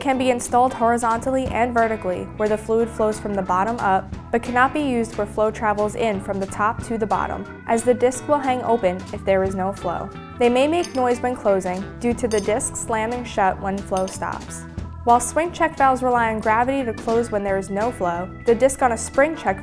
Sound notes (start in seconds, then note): 13.7 disc clinking